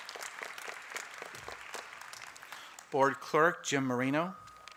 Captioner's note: applause